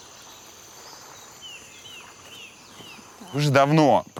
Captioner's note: crickets and birds chirping